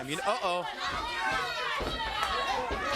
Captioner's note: crowd chatter